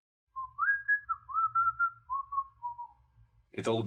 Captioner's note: whistling